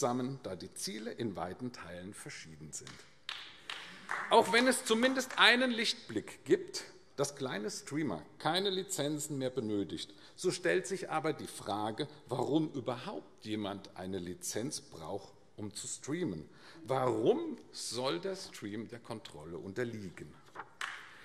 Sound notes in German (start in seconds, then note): 3.2 Beifall AfD; 20.8 Beifall AfD